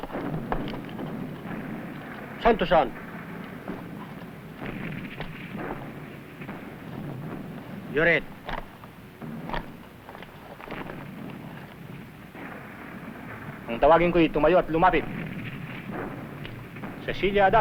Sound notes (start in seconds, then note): 13.6 non-english